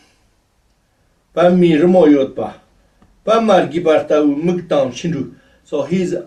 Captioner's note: tibetan